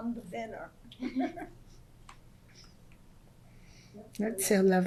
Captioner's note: laughs